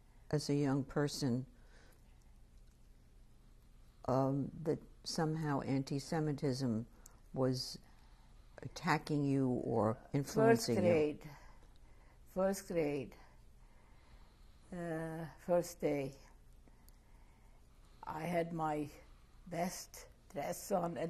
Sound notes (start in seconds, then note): 13.5 pauses for 3 seconds